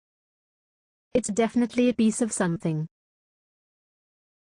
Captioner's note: voiceover